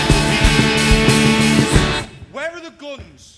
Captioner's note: English